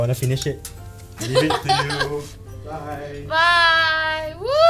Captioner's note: laughs